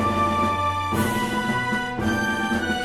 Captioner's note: flag flaps